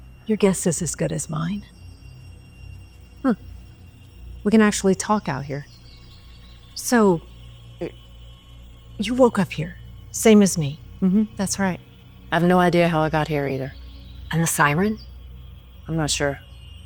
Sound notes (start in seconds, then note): 3.2 Tiffany scoffs